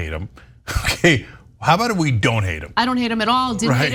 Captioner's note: laugh